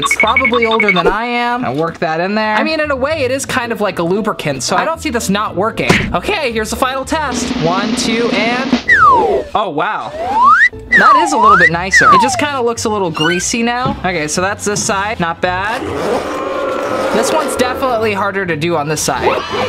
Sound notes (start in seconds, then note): 10.1 whistle sliding; 16.4 booing